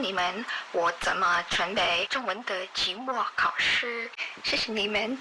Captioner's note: Mandarin